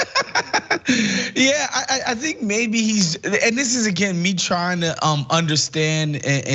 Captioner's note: laugh